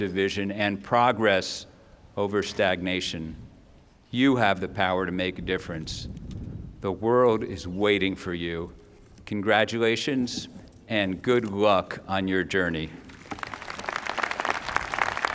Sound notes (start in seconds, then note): 13.0 applause